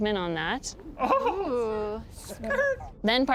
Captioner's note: crowd gasping